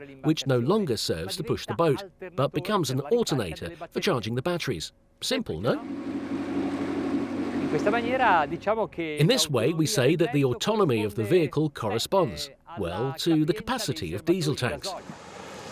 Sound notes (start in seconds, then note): 5.7 engine hums; 7.6 speaks in foreign language